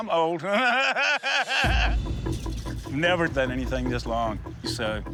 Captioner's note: laughs